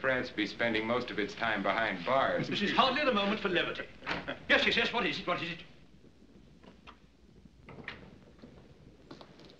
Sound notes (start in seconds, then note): 4.0 door Opens; 4.2 chuckles